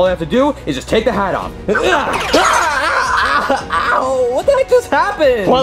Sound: hat warbles; Junior whimpers

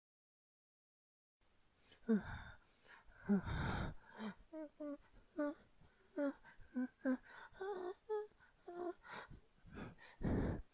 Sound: sound of scared person

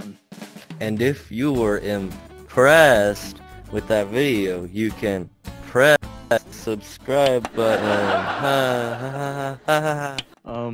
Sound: awkward laughing; awkward laughing continues

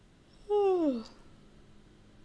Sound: yawn

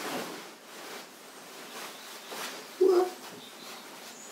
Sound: dress rustles

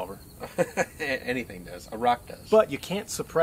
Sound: laughs

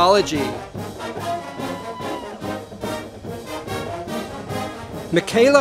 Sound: audience applauding

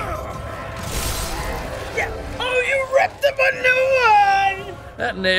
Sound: Kratos grunts; centaur shrieks

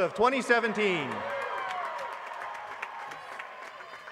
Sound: applause

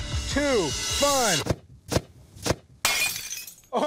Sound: gun fires

